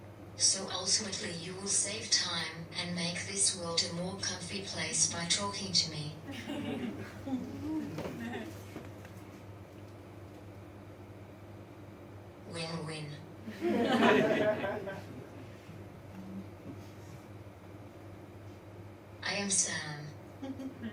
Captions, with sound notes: So ultimately, you will save time, and make this world a more comfy place by talking to me. (Audience laughs) Win win. (Audience laughs) I am Sam.